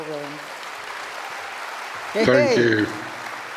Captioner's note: audience applauds